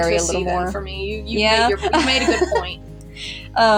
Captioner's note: laugh